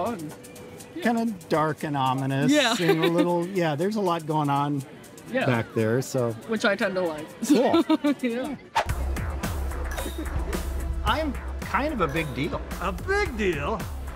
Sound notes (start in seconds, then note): 2.6 laughs; 7.4 laughs; 8.8 air whooshes; 10.4 energetic rock music